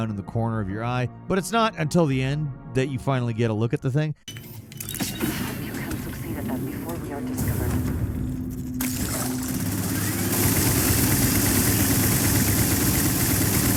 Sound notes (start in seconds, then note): 4.2 mechanical door swooshing; 8.8 guns firing